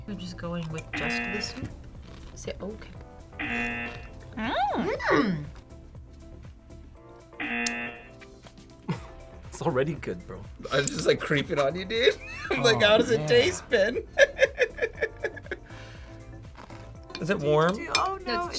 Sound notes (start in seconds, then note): 3.4 buzzer; 7.4 buzzer; 8.8 laughs; 14.3 laughs